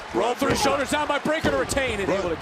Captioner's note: crowd cheers